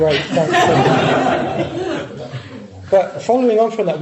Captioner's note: laughter